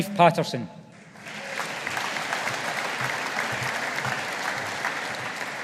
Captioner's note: audience applauding